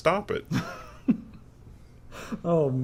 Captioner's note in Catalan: riures